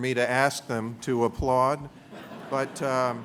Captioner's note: laughter